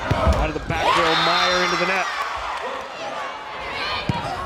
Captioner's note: players yelling